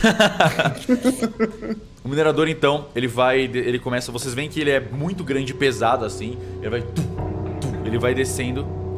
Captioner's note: footsteps